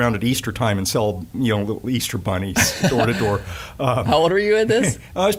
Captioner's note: laughing